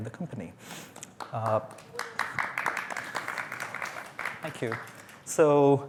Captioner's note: applause